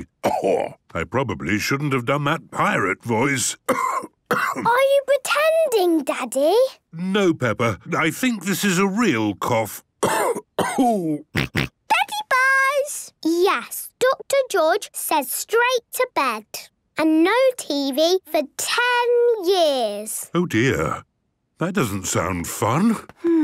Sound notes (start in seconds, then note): 3.6 cough; 10.0 cough; 11.4 snort